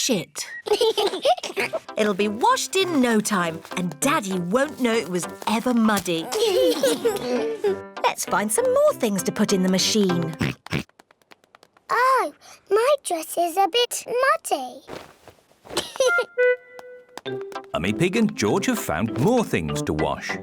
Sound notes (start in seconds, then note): 0.6 both giggle; 10.4 oinks; 15.8 giggles